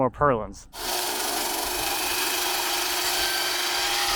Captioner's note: saw buzzing